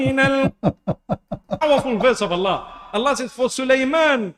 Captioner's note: Ketawa